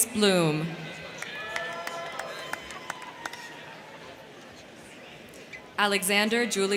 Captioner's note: crowd cheering; crowd clapping